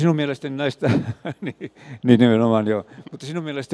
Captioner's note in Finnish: naurua